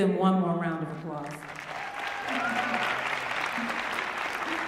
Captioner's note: applause